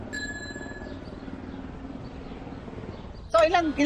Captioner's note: aircraft blades whirring